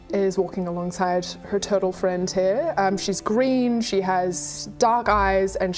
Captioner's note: none